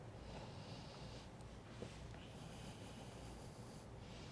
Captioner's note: breathing deeply